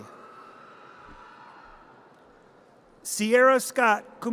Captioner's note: audience cheers